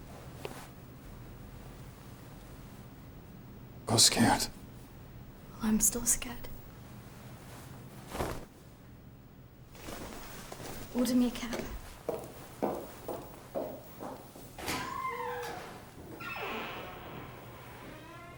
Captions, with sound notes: - I was scared. - Well, I'm still scared. Order me a cab. (Door squeaks)